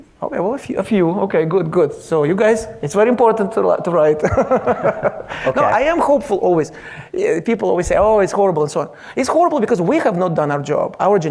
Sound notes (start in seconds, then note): 4.2 laughs